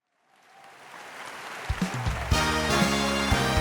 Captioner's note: crowd applauds; upbeat music